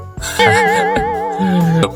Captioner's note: awkward laugh